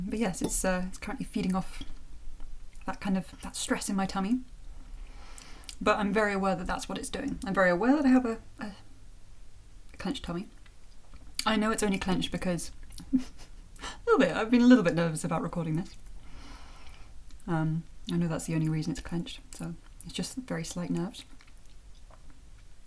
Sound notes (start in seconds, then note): 13.0 chuckle